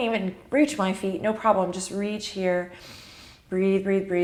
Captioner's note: inhales